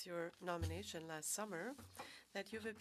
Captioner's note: speaking French